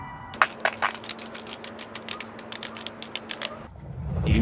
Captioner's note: condiment squirting sounds